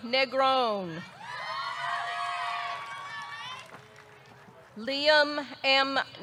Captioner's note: audience cheering; audience clapping